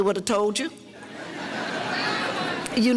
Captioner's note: audience laughter